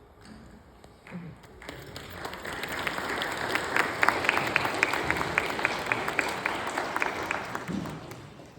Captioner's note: applause